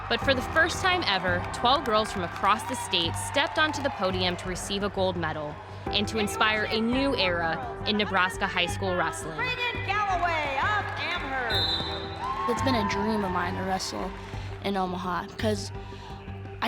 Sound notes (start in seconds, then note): 11.4 whistle blows